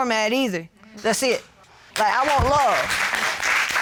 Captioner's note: audience applauds